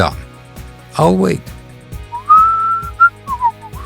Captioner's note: whistles